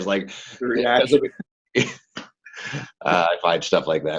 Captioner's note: laughing